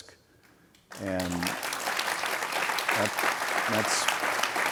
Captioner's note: audience applauds